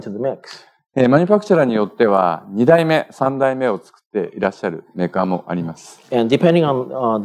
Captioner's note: speaking japanese